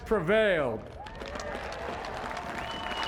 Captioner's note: cheering and applause